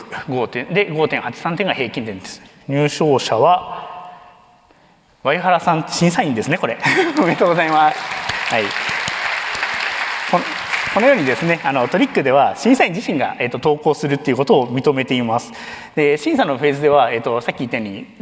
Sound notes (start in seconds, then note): 6.8 chuckles; 6.8 applause